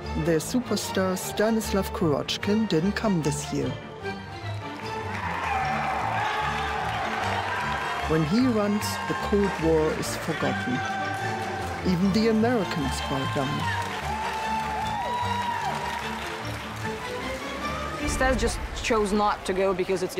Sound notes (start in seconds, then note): 5.9 crowd applauding and cheering; 14.0 crowd applause and cheers continue